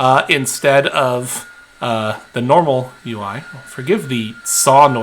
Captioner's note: tools whirring